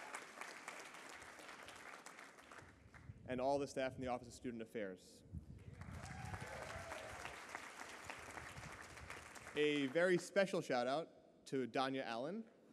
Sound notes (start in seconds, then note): 5.7 applause